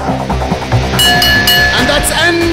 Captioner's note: Bell rings